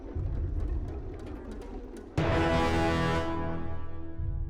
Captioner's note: engine struggles to start; abrupt sour note